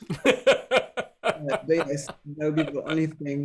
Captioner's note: laughing